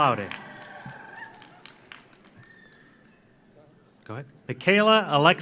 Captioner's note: audience cheers; audience applauds